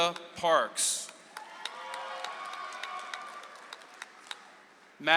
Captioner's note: audience applauds